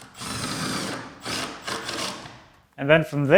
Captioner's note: drill whirs